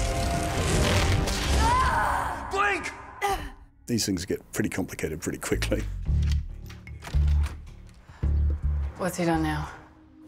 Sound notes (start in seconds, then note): 1.4 screams; 2.8 moans